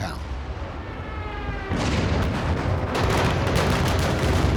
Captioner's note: gunfire and explosions